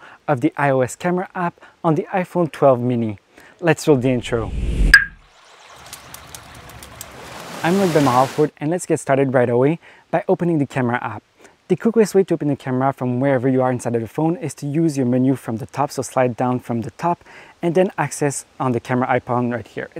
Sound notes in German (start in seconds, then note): 4.0 Wind rauscht; 5.0 Wasser fließt